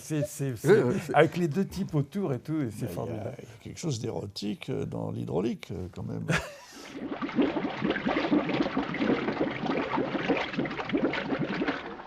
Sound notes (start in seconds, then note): 6.1 laughs; 6.8 bubbling